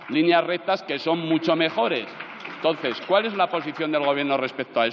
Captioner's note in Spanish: Aplausos